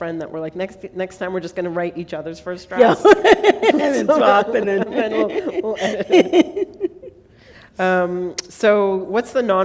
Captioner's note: laughter